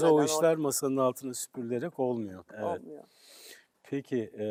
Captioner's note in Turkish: homurdanır